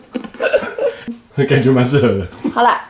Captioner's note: laughs